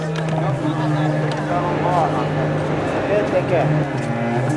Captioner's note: dramatic music; indistinct chattering